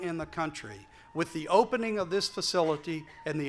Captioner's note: siren in background